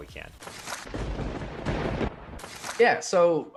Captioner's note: thunder